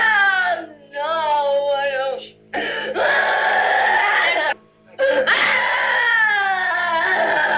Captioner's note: screaming